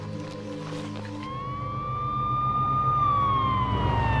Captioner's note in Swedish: sirenen ljuder